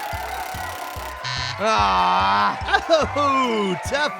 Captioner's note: wheel spinning; buzzer; groans; laughs